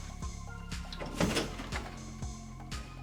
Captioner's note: door opening